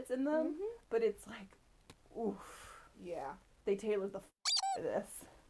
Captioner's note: squeak